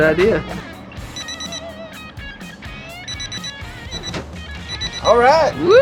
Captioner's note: electronic beeping